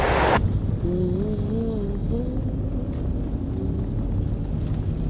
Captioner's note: Elisa hums